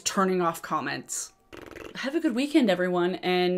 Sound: blowing

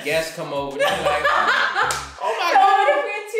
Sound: laughter

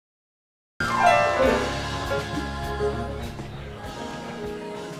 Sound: people talking

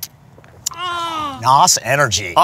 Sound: moans

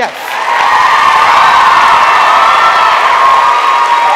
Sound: audience cheers

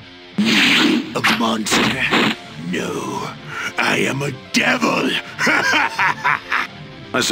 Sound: crazed laughter

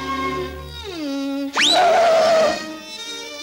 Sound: brakes screeching

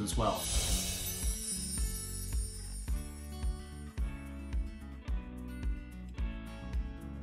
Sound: gentle music; screen whooshing

